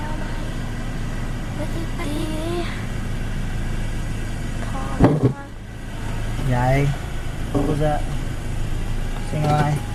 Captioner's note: crunching noise